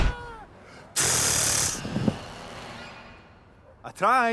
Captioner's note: imitates a gun firing